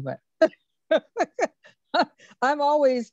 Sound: laughs

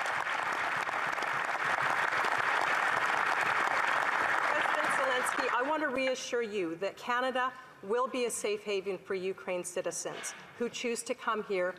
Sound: applause

